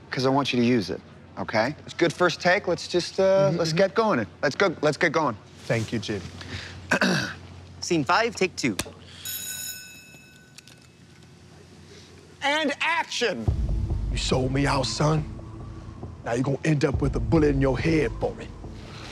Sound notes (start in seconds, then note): 6.9 clearing throat; 9.2 bell ringing